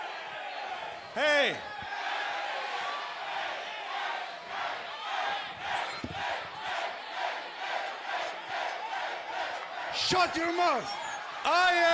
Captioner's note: crowd cheering